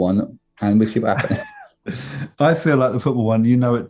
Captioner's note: laughing